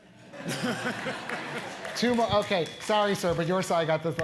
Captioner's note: laugh